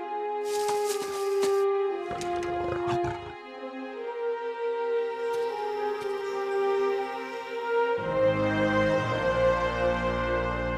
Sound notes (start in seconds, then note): 0.4 footsteps; 2.1 growls; 8.1 music swells